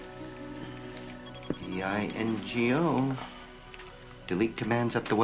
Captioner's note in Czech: Pípání